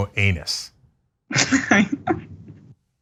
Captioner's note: laugh